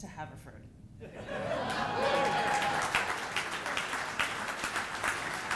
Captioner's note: audience applauding